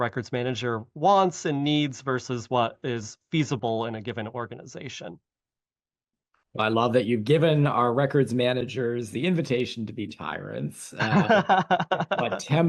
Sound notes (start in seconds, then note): 11.0 laughter